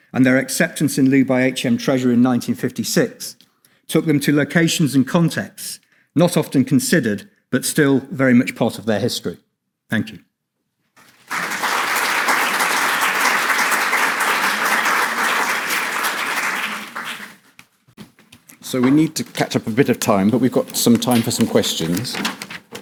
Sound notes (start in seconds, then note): 11.0 audience applauds